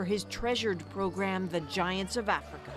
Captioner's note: applause